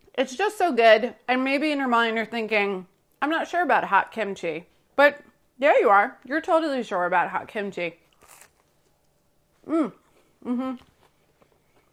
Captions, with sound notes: It's just so good, and maybe in your mind you're thinking, "I'm not sure about hot kimchi." But, yeah you are, you're totally sure about hot kimchi. [bread crunching]